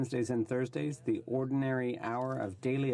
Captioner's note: speaking French